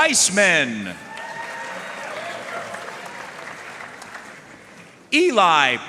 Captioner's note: audience cheering and applauding